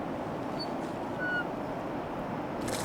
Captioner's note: splashing